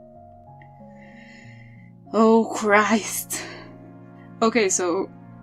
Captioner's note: sigh